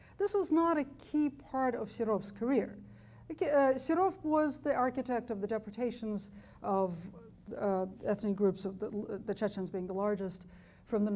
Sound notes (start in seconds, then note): none